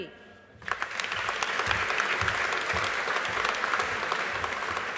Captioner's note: audience applauding